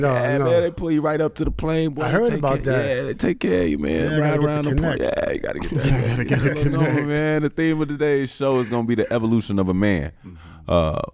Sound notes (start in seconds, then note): 6.8 laughs